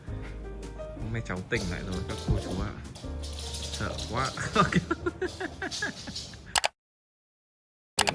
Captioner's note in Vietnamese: tiếng cười